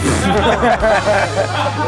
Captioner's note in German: Lachen